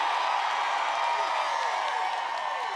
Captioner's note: applause